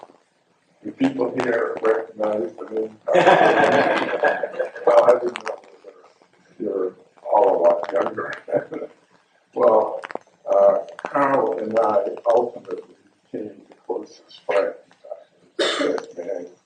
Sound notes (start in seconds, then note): 4.8 indistinct chuckles